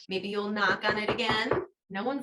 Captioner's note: knocking sound